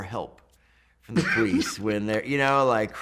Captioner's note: laughs